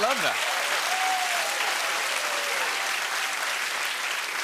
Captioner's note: cheers and applause